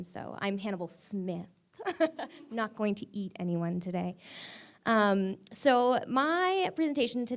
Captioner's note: laughs